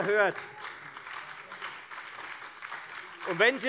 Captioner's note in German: Beifall bei FDP und bei Abgeordneten der SPD - Zurufe von der CDU